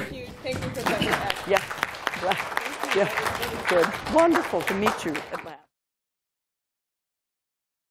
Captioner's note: applause